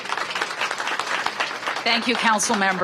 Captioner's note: applause